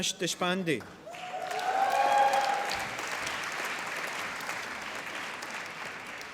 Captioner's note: applause